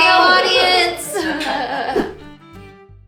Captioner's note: laughing; cheerful violin music